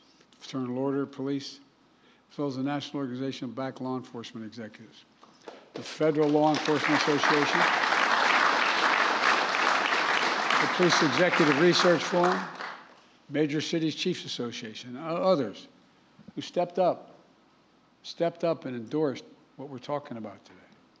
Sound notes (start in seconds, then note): 5.6 applause